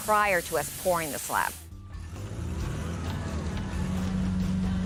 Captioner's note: engine roars